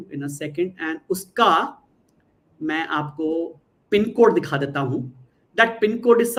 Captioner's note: non-english speech